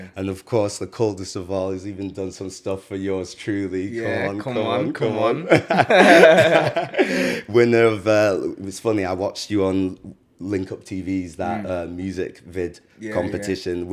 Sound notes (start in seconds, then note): 5.5 laughs